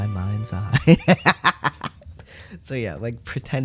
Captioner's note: laughter